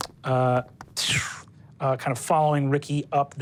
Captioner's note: whooshing